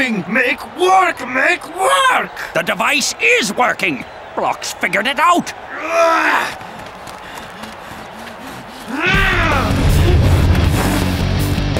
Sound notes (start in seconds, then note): 6.0 growls; 9.1 screams